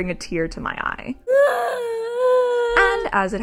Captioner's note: weeping noises